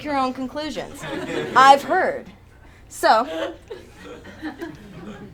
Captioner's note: attendees laugh